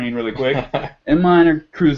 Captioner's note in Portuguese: risos